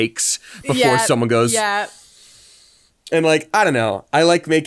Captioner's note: inhales